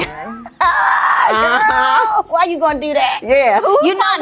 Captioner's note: laughing